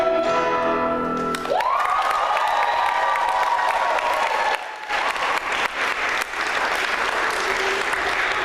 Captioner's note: applause